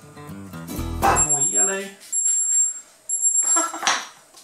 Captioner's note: beeping; laughs